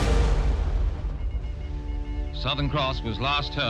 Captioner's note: music fades; radio beeping in Morse